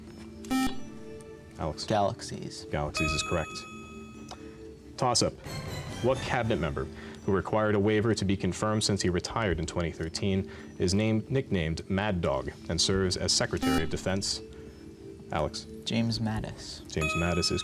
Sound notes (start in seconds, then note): 2.3 buzzer